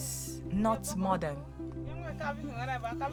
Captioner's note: speaking in local language